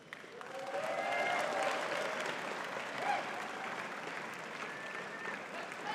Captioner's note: audience cheering and clapping